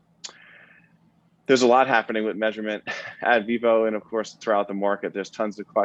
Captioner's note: laugh